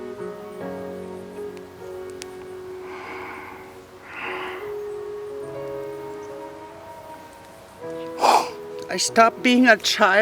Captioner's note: sobbing